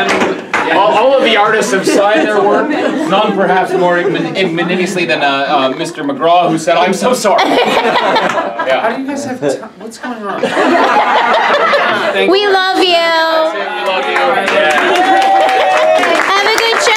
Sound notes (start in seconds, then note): 7.2 laughs; 13.8 claps